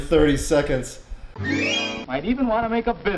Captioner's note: flute "whoosh"